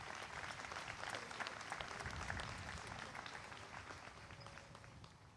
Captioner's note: applause